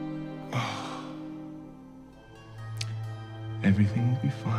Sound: sighing

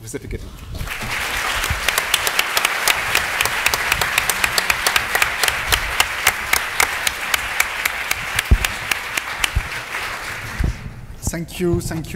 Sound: applause

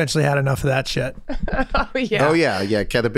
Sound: laughs

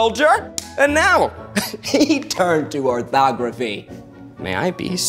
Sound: chuckling

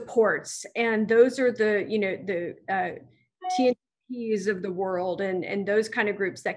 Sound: audio distorts

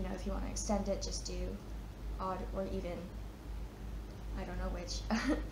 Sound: chuckles

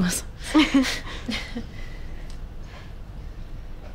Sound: both laugh

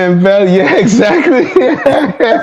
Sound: laughter

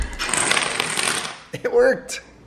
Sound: dominoes falling

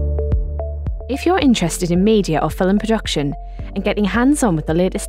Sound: voiceover

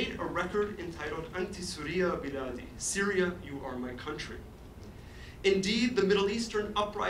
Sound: forein language

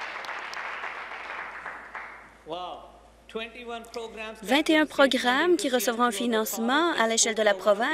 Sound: applause

